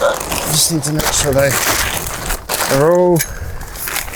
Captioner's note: murmurs